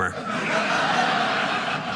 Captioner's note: audience laughing